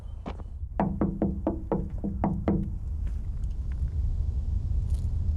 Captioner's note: light knocking